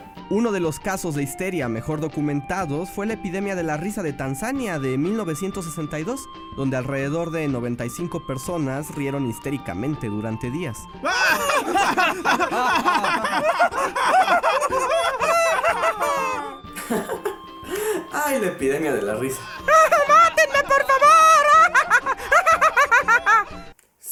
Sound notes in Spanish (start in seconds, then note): 11.0 Risas histéricas; 19.5 Risas